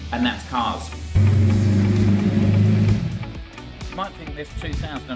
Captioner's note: engine revving